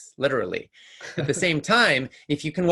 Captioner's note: laughs